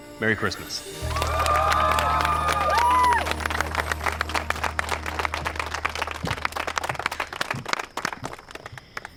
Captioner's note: cheering, applause